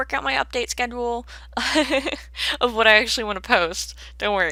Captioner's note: laughs